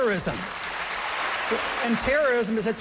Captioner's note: applause